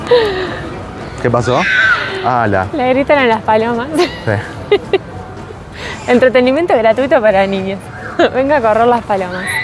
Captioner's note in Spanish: risas